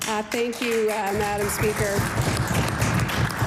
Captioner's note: some Applause